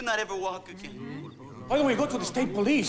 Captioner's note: overlapping chattering